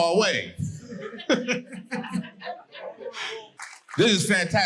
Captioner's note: audience laughing